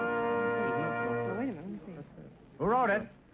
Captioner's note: whispering